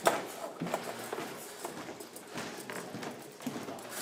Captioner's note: rustling, rattling